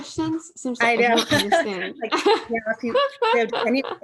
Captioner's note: laughter